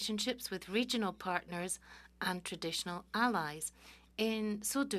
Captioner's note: speaking French